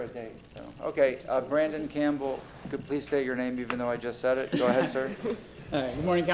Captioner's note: laughter